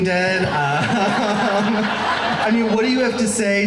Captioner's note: laughing